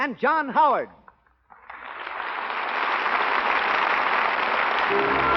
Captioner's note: applause